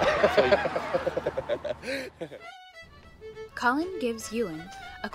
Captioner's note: laughs